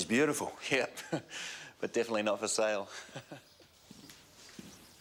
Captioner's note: chuckles